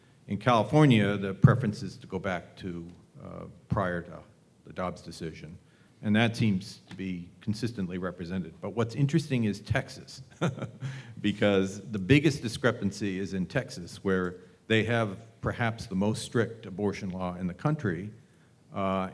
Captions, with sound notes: In California, the preference is to go back to prior to the Dobbs decision, and that seems to be consistently represented. But what's interesting is Texas, [LAUGH] because the biggest discrepancy is in Texas, where they have perhaps the most strict abortion law in the country.